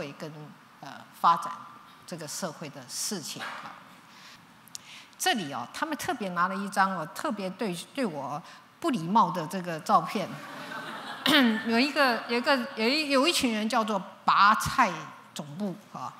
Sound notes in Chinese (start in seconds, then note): 10.3 笑聲